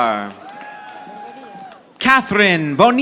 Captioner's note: audience applauding